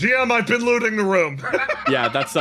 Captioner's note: laugh